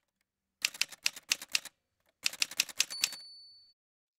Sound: typewriter sounds

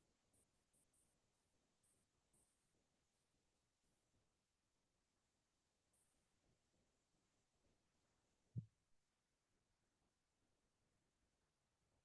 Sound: silence

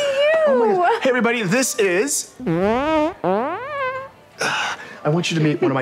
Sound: farts

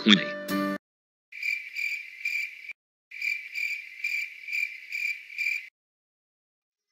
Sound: grasshopper noise

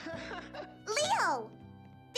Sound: laughing

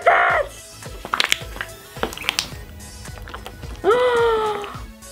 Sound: popping suction sounds; gasp

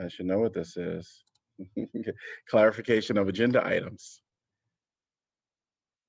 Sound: laughter

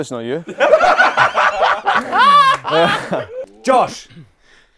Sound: people laughing

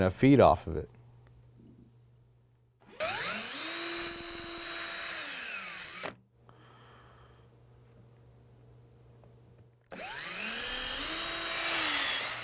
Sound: sound of drill

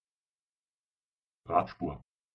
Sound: fast Pronunciation

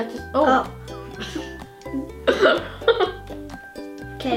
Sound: exhale; laughs

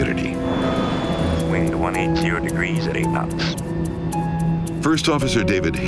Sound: automated Voice

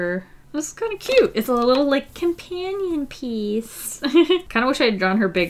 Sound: laughs

